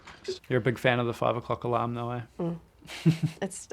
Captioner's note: chuckles